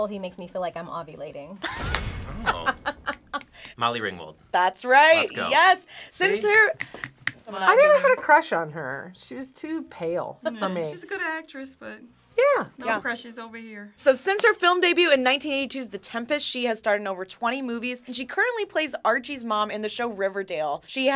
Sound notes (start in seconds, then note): 2.4 React laughs; 6.8 snaps fingers